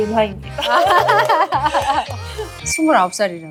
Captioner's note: clapping